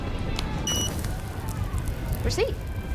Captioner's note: card machine beeps